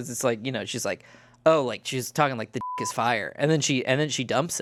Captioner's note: beep